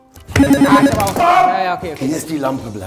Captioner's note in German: Buzzer